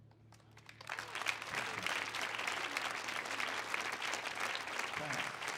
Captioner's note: audience cheering and clapping